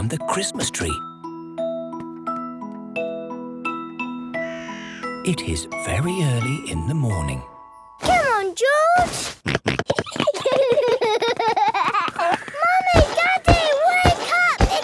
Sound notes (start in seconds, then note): 9.1 George snorting; 9.5 both giggling; 9.5 George laughing